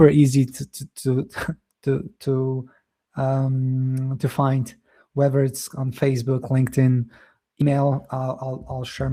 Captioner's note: chuckles